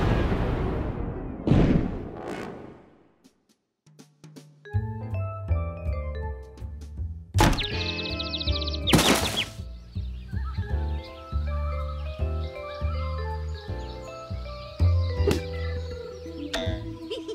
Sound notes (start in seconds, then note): 6.5 birds chirping; 16.4 laughing